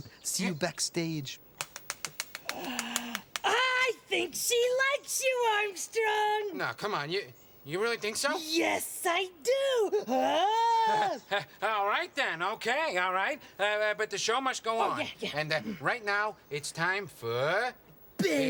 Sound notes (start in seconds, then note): 1.5 beak tapping; 1.7 Bunni gasping; 10.2 Bunni yelling excitedly; 10.6 Armstrong laughing